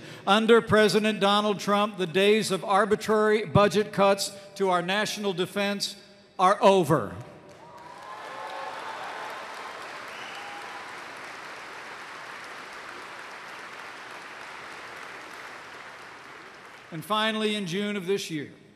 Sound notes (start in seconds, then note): 7.4 applause